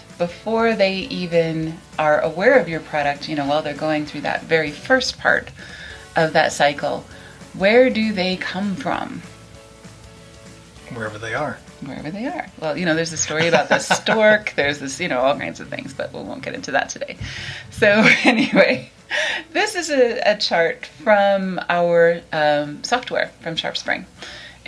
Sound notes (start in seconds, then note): 13.2 laughs; 17.8 laughs